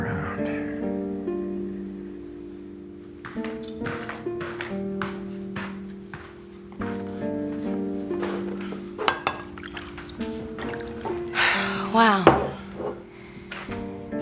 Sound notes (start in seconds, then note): 0.3 brooding music; 9.1 liquid splashing; 11.2 sighs